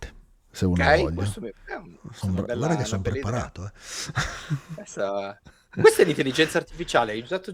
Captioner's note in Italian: risate